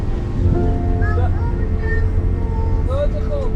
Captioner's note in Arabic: يغمغم